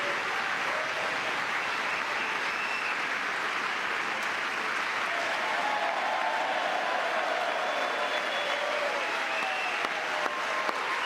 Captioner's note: cheering; applause